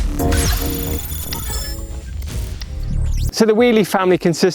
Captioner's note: electronic beeping